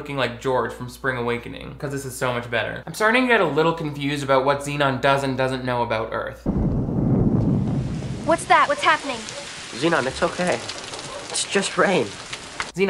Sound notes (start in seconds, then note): 6.4 thunder rumbling; 6.5 rain pouring